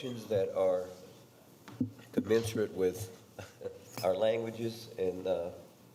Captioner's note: chuckles